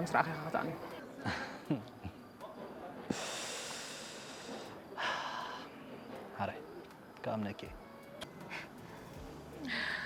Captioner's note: laughs